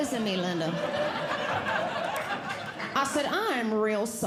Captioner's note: audience Laughing